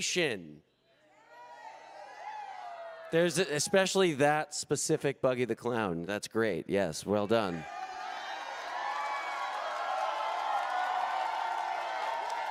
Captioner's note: cheering